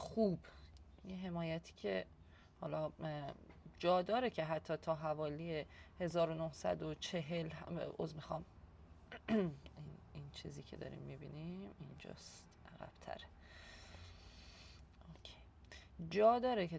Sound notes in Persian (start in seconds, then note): 9.2 گلویش را صاف می‌کند